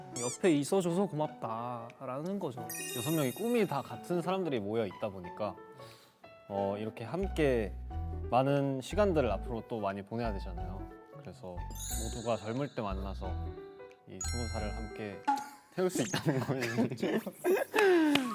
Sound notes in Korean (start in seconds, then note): 16.1 ㅋㅋ